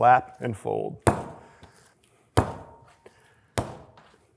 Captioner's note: slapping loudly